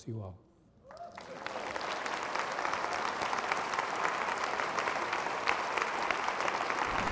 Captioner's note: audience clapping